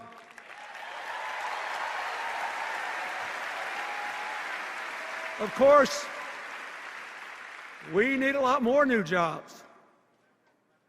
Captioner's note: cheers and applause